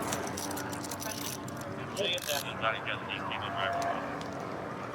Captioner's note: dispatch chatter